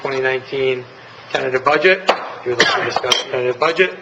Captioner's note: gavel striking